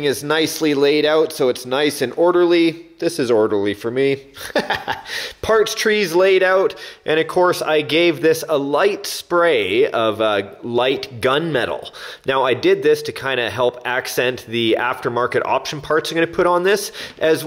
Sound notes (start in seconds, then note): 4.4 laughs